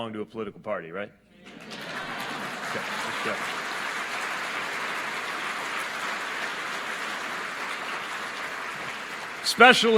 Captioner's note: applause